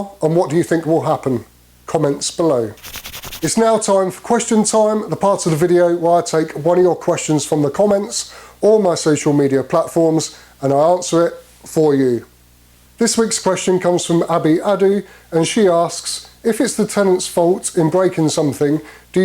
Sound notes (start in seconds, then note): none